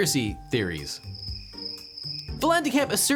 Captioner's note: crickets chirping